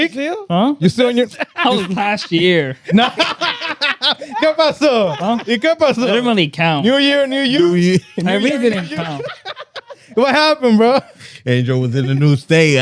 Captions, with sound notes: That's still? Huh? You're still on your-- I was last year. No. (Speaking Spanish) They're going to count. New year, new year. New year. (Laughter) What happened, bro? Angel was in the new state.